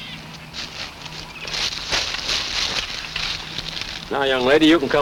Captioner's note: grass rustles